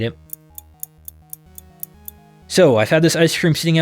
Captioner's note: stopwatch ticks